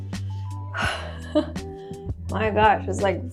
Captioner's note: laughs